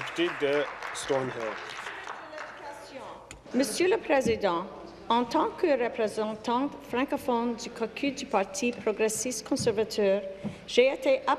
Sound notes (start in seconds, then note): 0.0 applause; 6.2 speaking in French